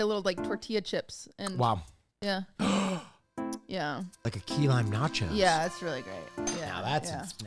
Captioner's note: gasps